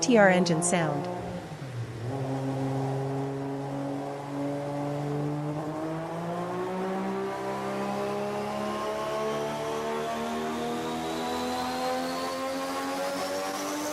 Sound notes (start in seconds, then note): 0.0 GT-R engine sound